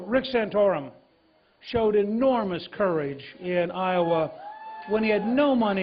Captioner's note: cheers and applause